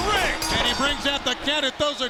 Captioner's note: bell rings